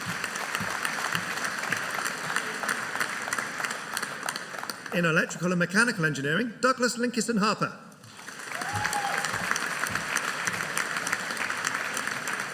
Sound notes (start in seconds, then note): 0.0 audience applauding; 8.4 audience cheering